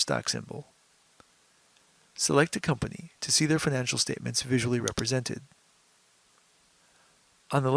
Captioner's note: mouse click